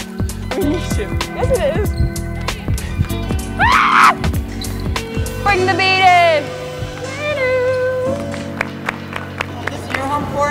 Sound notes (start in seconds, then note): 3.6 screams; 8.0 all clapping